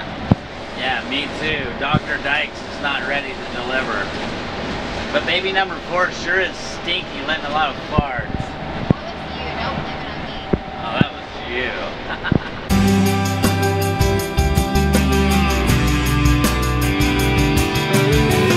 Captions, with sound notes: - Yeah, me too. Dr. Dyches is not ready to deliver. But baby number four sure is stinky, lettin' a lot of farts. - That was you, don't blame it on me. - No, that was you (laughs). (guitar strumming)